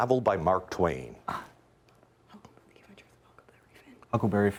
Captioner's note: students whispering